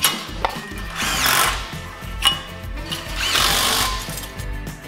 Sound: drilling

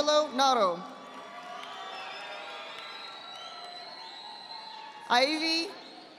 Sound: audience applauding

